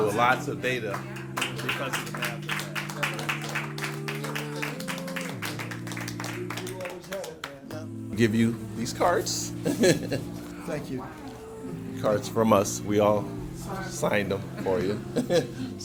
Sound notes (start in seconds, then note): 2.6 crowd applauding